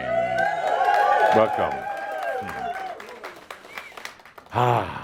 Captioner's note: cheers and audience applause